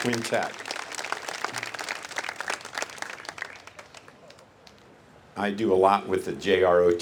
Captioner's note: applase